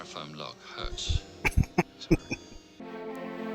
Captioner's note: laughing